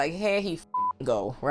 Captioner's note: beep